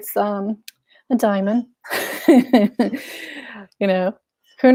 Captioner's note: laughs